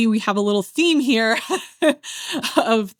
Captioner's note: laughs